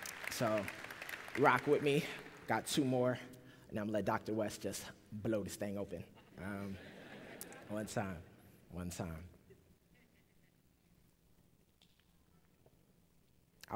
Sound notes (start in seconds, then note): 0.0 applause; 6.1 laughter; 9.5 pause